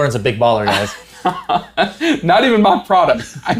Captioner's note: laughs